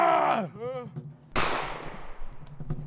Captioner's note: gunshot